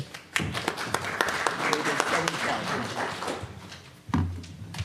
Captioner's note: audience applauds